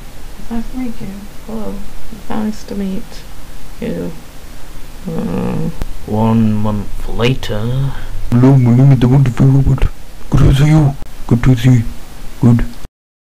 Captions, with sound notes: It's nice to meet you! Hello? It's nice...to meet...you... [sigh] One Month Later... HELLO! MY NAME IS THE123ROBOT! GOOD TO SEE YOU! GOOD TO SEE! GOOD!